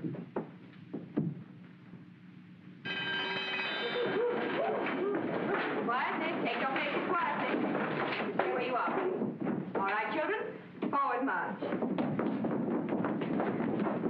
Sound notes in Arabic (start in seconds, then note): 2.8 يدق الجرس